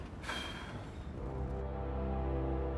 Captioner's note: Will sighs; warm orchestral music